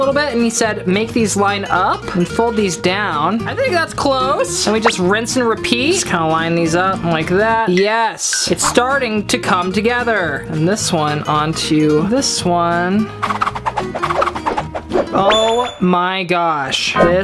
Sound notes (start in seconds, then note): 13.2 air whooshing